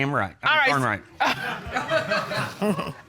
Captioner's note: chuckles